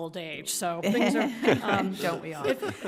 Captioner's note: laughing